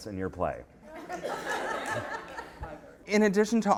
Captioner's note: laughter